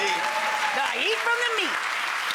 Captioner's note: audience cheering